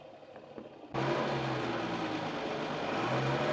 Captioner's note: engine revs